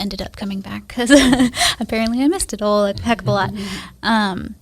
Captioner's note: laughs